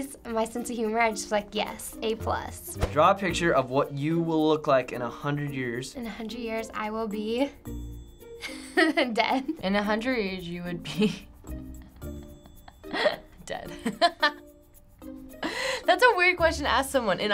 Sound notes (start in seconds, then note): 8.4 giggling; 11.8 chuckling